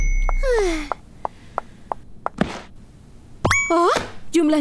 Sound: sighing; feet pattering

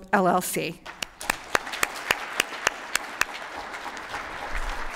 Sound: applause

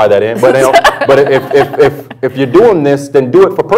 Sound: laughter

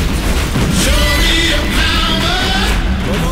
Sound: crowd cheering

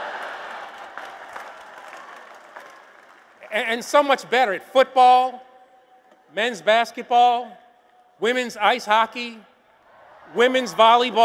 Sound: applause

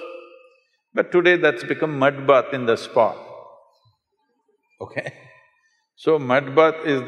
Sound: laughs

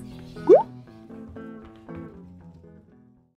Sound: bubble popping

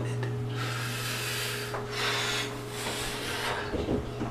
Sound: exhales

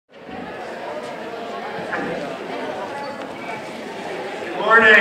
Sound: background Student Conversations

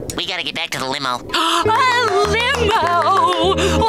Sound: gasps

